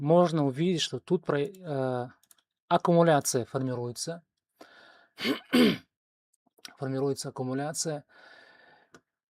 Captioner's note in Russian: откашливается